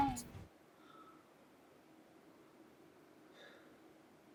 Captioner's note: deep sigh